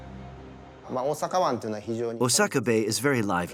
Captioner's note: speaking in foreign language